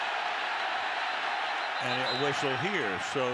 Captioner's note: whistle blowing